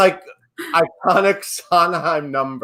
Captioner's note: laughs